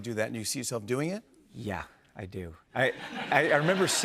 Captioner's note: laughter